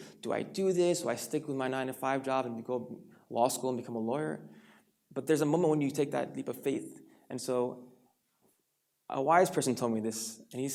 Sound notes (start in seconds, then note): none